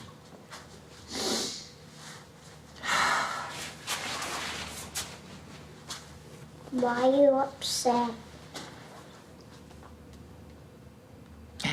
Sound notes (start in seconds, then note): 0.6 sniffles, sighs